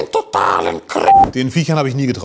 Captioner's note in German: Piep